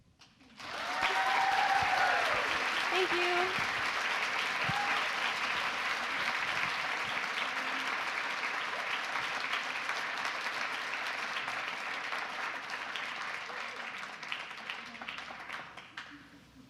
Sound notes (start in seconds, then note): 0.7 applause